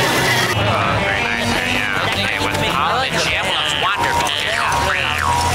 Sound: chattering

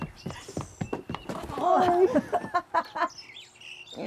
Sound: both laugh

